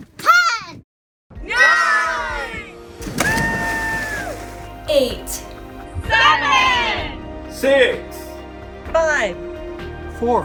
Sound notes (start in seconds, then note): 3.2 group cheering